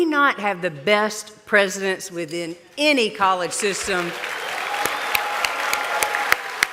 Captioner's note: applause